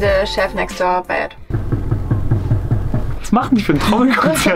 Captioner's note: knocking sounds